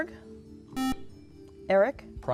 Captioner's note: beeping